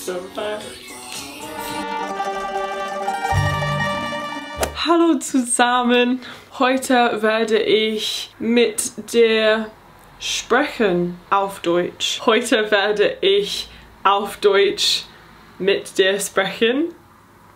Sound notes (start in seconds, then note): 2.5 upbeat music; 5.1 speaking in foreign language; 12.4 speaking in foreign language